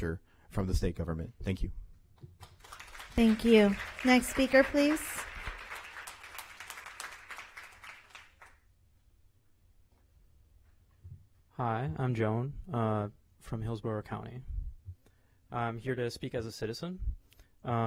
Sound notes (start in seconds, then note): 8.7 applause